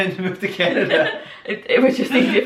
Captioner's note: laughing